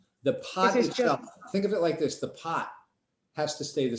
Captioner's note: woman Speaking